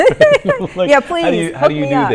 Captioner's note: laughter